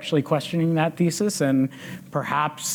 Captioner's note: none